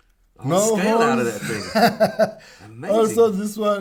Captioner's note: laughs